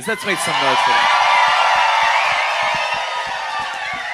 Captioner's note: audience cheers